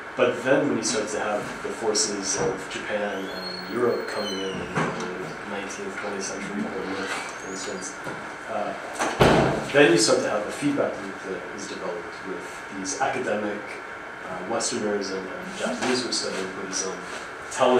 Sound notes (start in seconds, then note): 7.7 outside noise, banging sound